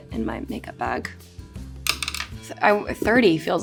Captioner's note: brush clacking